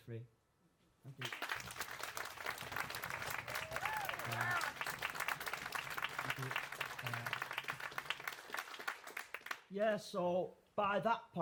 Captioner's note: applause